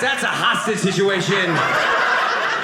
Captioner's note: audience laughing